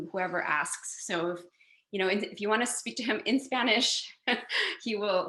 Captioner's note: chuckles